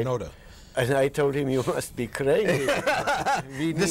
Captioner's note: laughter